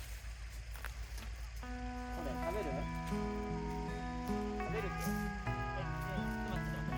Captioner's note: laughs